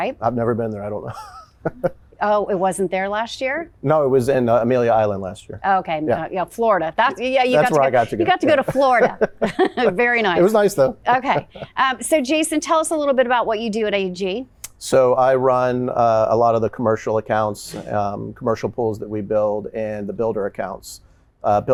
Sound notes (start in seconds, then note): 1.1 laughing; 9.6 laughter